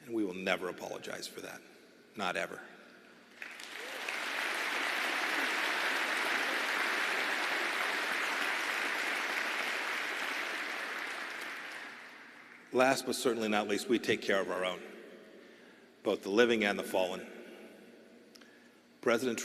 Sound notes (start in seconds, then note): 2.3 applause